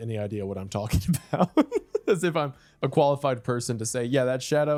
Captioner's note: laughs